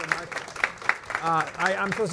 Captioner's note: applause